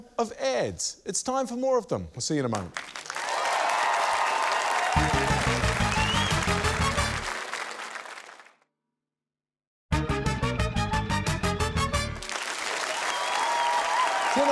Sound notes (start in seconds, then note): 5.8 cheering, applause; 12.2 cheering, applause